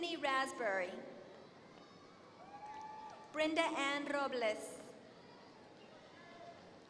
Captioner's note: applause